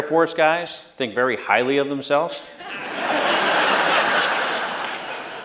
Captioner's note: laughter